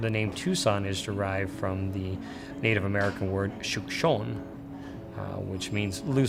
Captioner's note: speaks foreign language